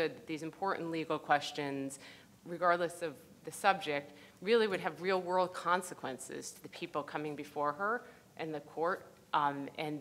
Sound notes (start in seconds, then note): none